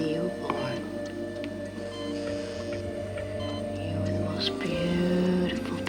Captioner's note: dramatic music; machine beeping